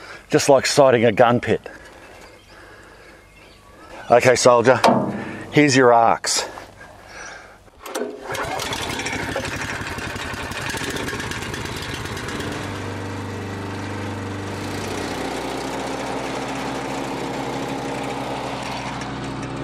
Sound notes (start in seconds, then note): 4.9 hand slaps; 7.8 engine starts; 7.8 cable whirs; 12.8 motor idles